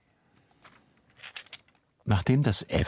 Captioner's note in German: Klimpern